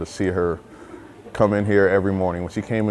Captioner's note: people chattering distantly